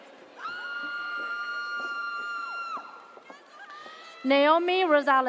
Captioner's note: audience cheers